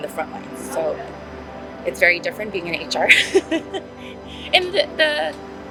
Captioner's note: laughs